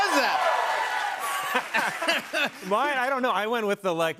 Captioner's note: both laugh